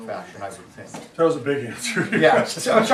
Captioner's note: student mutters